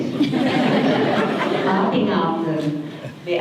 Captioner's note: audience laughter